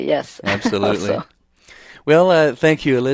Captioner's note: laughs